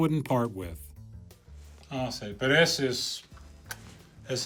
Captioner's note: speaking Spanish